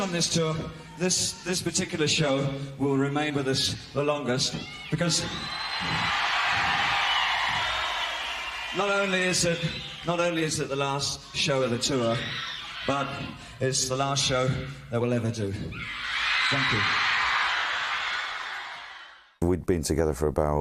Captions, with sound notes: Of all the shows on this tour. This this particular show will remain with us the longest because [applause and cheering] not only is it not only is it the last show of the tour, but it's the last show that we'll ever do. Thank you. [cheering]